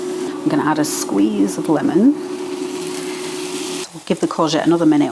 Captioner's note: sizzle